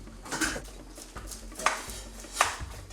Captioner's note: knife slicing